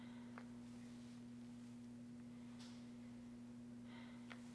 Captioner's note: deep breathing